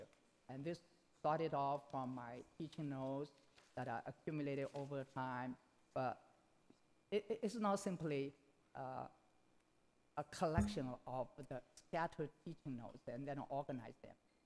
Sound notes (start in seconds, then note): none